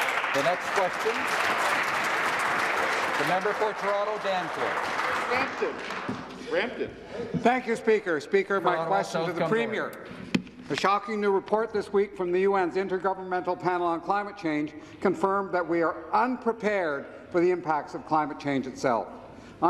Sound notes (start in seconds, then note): 4.8 some Applause